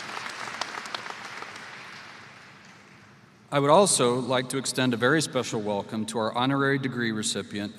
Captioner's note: applause